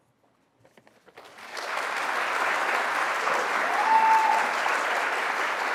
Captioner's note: audience applauds